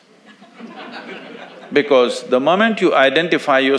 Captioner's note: audience laughs